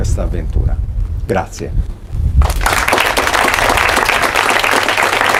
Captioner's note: applause